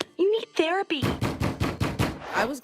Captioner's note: banging on door